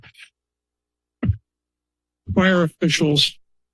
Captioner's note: pause